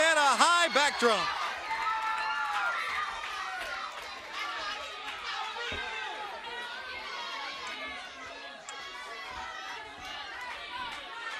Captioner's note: crowd chatter